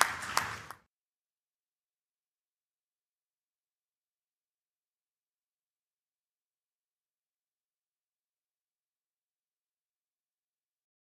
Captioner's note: applause